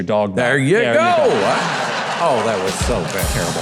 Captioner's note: audience laughing